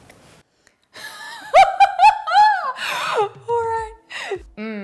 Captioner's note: laughs